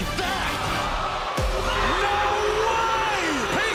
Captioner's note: crowd cheering